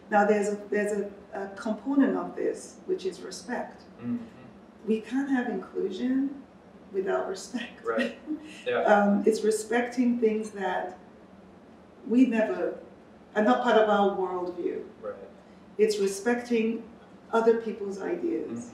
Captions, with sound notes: Now, there's a component of this, which is respect. We can't have inclusion, without respect. [chuckles] It's respecting things that are not part of our worldview. It's respecting other people's ideas.